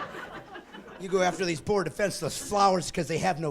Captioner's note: laughing